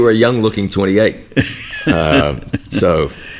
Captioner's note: chuckles